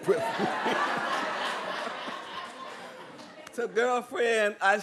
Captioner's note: laughter